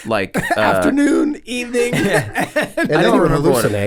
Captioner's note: laughs